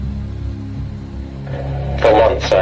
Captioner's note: tape player turns on